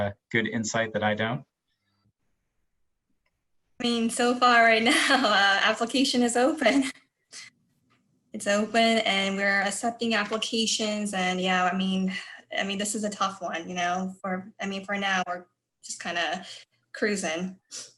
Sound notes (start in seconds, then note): 5.2 laughs